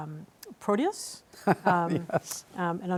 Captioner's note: laughs